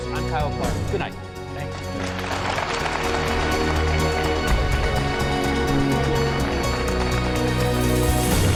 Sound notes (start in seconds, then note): 1.3 audience applauding; 1.6 upbeat instrumental music